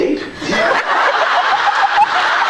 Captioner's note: laughs